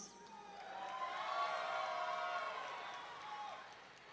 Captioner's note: audience cheering